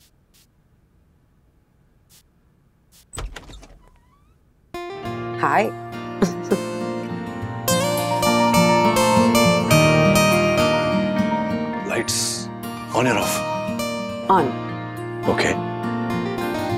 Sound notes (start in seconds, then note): 2.1 perfume sprays; 3.0 door opens; 6.2 laughs